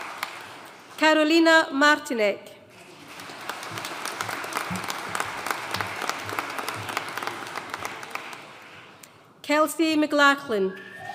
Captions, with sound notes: Karolina Martinek. (AUDIENCE APPLAUDING) Kelsey McLachlan.